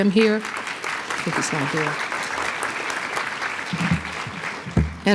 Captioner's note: applause